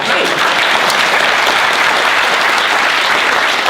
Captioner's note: applauding